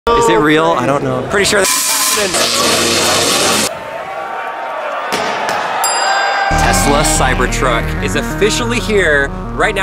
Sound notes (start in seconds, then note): 2.4 electricity buzzing; 3.8 crowd cheering